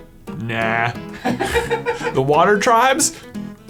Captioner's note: giggling